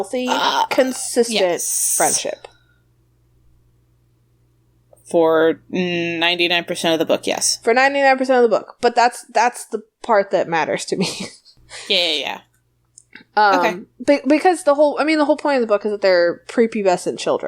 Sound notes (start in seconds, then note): 10.7 laughs